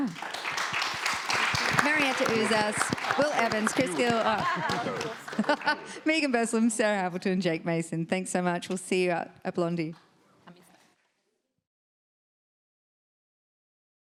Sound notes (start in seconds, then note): 0.0 crowd applauds; 3.5 crowd laughs